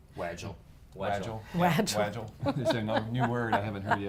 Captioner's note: laughing